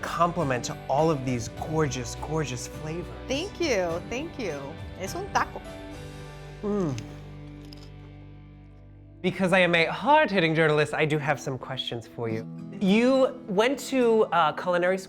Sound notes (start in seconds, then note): 4.8 speaking in foreign language